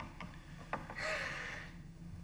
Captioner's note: sobbing